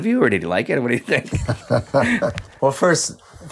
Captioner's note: laughing